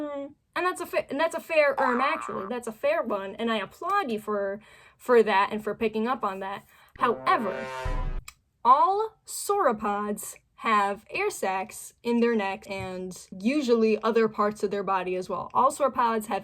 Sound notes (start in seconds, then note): 7.0 imposter sound effect; 7.0 tsk